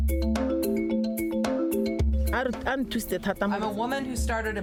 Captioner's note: speaks foreign language